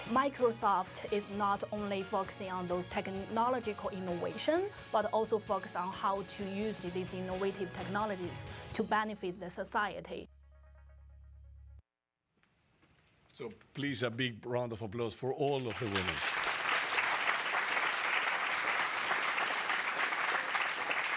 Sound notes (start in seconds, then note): 15.3 applause